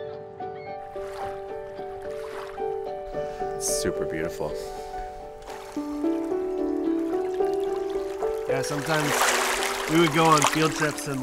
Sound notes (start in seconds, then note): 0.2 soft music; 5.3 water sloshes